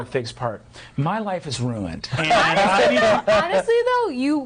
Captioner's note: others laughing